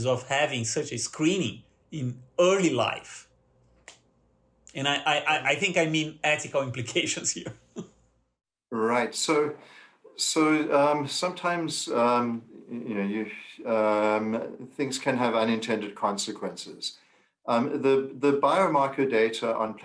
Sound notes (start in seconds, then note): 7.4 laughter